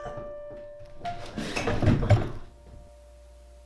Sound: coughing fit; falling down impact sounds

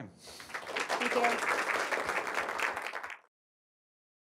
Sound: applause

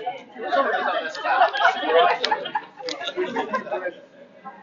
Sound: chattering

